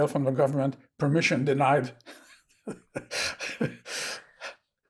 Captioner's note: laughing